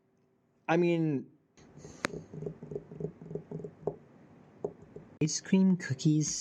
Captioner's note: pensive finger drumming